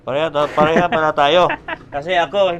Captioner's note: laughs